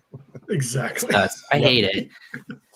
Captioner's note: laughs